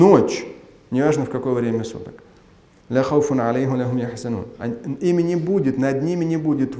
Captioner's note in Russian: говорит на арабском